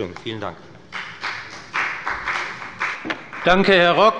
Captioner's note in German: Beifall bei der FDP